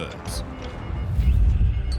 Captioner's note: radio beeping in Morse